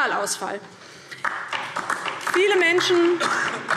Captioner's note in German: Beifall DIE LINKE